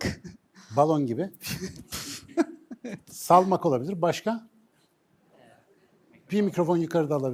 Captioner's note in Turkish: kahkaha